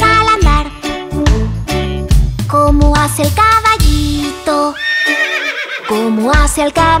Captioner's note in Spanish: Sonido de relincho